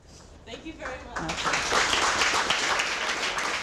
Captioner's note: applause